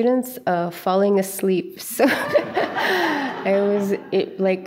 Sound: chuckles; audience chuckles

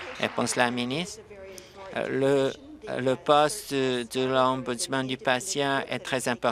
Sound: applause

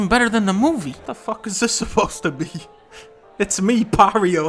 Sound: laughing

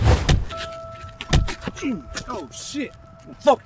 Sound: punches thudding

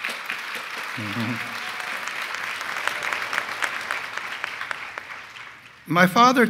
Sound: applause

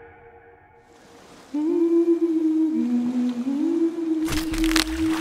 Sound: humming

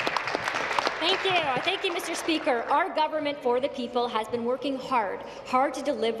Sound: applause

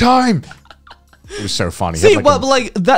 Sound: chuckling

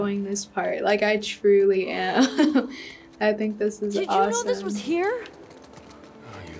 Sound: laughs

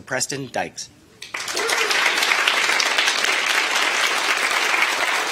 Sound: attendees applauding

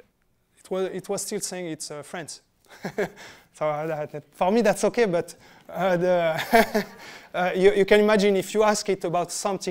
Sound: laughter

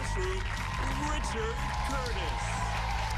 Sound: cheers and applause

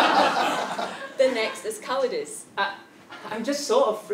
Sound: laugh

